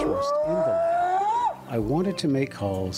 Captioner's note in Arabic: صوت بيج فوت